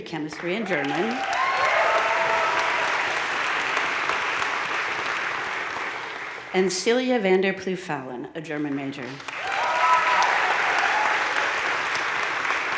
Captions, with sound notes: chemistry and German. (crowd cheering and applauding) And Celia Vander Ploeg Fallon, a German major. (crowd applauding)